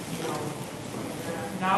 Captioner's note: speaks faintly